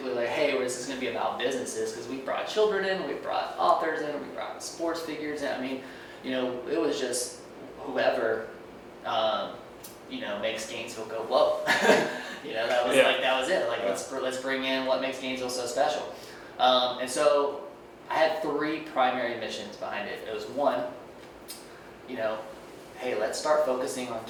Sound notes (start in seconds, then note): 11.7 laughs